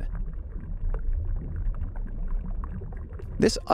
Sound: water moving

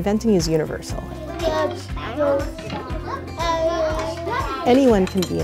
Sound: classroom noise

